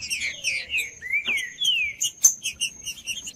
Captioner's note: trinca ferro cantando